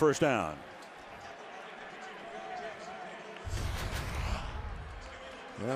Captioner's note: pa announcement